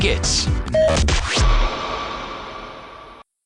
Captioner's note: beep